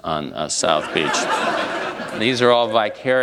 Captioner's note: laughter